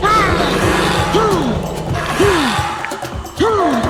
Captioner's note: dinosaur squawking